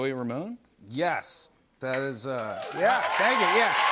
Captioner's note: cheers and applause